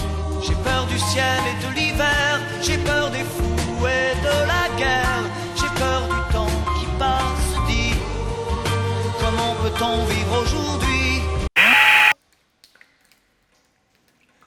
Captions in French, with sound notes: J'ai peur du ciel et de l'hiver. J'ai peur des fous et de la guerre. J'ai peur du temps qui passe. Dis ? Comment peut-on vivre aujourd'hui ? ( *Bruit parasite* )